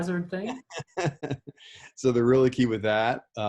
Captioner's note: laughing